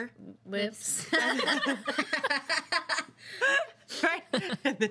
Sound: girls laughing

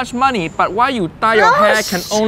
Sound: groans

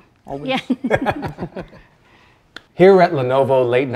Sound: both laugh

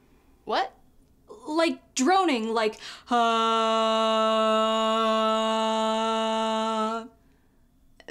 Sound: drones

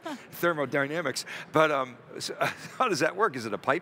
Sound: chuckling

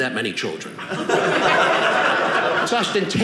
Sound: audience laughing

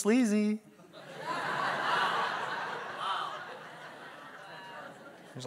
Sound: congregation laugh

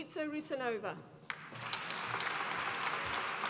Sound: applause

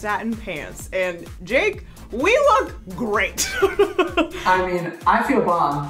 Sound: laughs

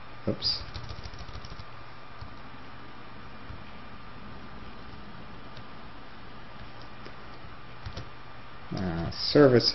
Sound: typing

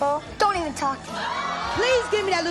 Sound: audience yelling

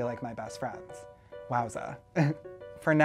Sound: nervous laugh

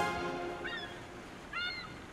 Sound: seagulls squawking

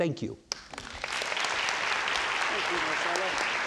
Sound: audience applauds

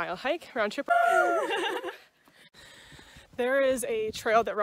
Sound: hikers cheering

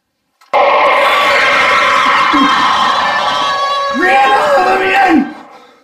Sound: scream

